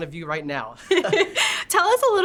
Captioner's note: both laughing